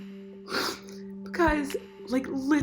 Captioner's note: sniffing